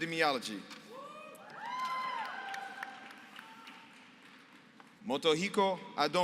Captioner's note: applause